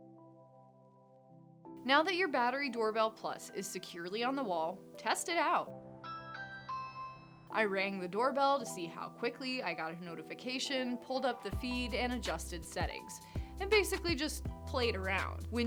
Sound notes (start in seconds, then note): 0.1 gentle music; 6.0 doorbell rings